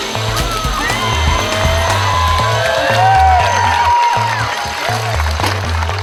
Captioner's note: funky music continues; audience cheering and applauding